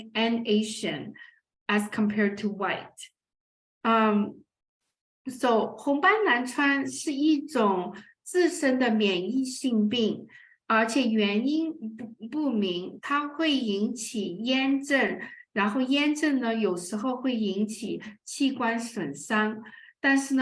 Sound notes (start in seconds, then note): 6.6 speaking chinese